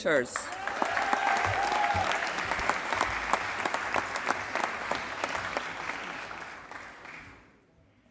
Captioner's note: applause